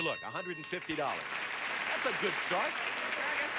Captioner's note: audience applauding